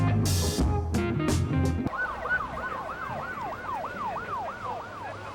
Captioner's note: sirens blaring